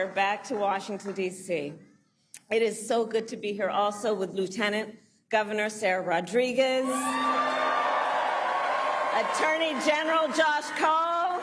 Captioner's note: applause